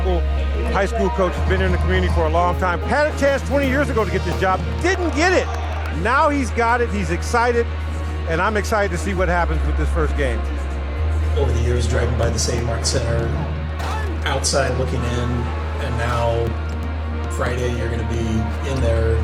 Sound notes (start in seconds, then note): 10.3 pensive dramatic music; 13.7 ball slams; 13.8 player screams